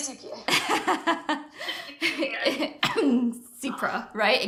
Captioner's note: laughter